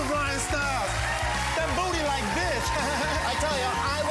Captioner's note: laughs